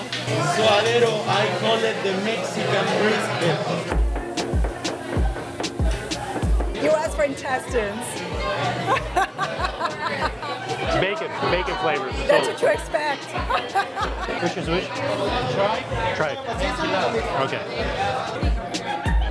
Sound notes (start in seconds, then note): 8.7 laughs; 13.3 laughs